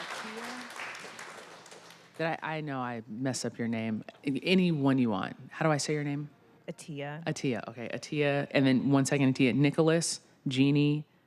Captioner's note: applause